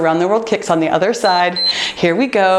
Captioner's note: timer beeps